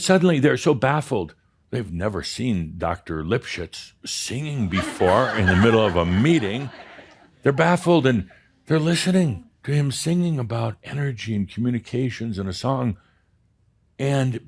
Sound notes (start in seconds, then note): 4.6 laughter